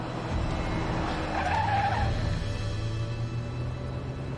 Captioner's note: tires screech